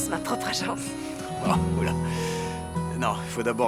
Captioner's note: laughing